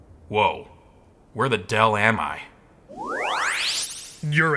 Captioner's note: mysterious interference